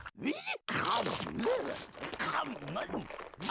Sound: chomping

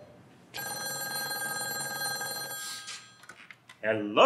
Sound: phone ringing

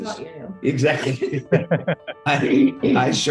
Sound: laughing

